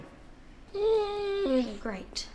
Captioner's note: dog whines